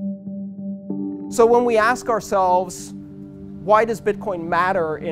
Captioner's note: man's voice